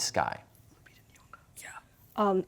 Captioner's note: whispering